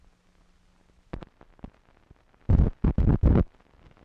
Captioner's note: static crackling